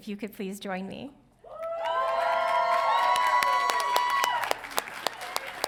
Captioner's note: audience cheering